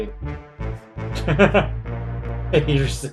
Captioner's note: laughs